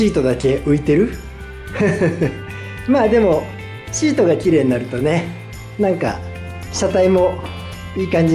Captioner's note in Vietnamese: cười lớn